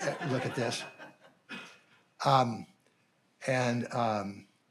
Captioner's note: audience laughing